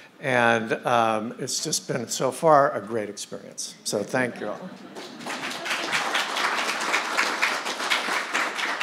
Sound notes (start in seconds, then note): 4.8 audience clapping